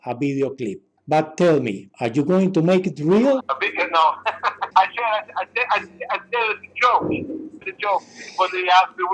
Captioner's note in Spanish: ríe